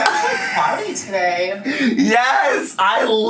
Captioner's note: laughs